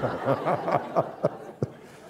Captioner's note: laughter